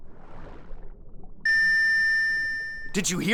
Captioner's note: beeping